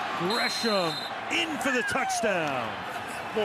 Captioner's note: whistle